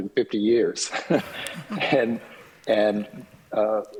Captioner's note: laughs